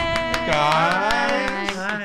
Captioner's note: cheering